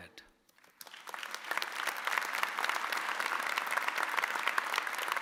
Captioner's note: audience applauding